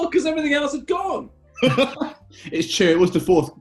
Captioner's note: laughter